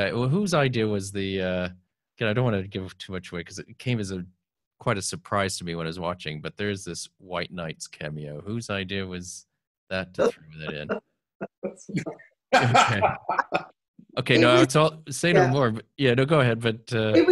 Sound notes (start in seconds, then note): 12.5 laughter